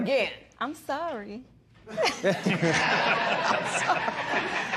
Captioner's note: laughter